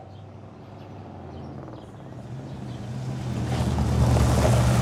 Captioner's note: car rumbles